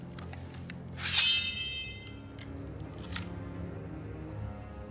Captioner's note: sword dinging